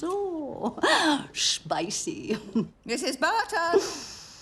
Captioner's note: chuckles